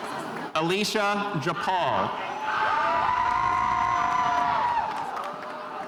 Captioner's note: spectators cheering